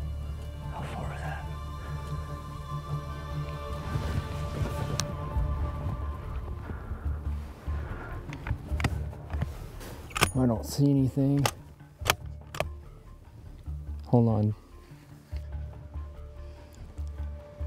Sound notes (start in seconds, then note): 12.0 gun cocking